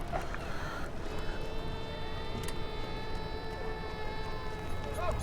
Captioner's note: children crying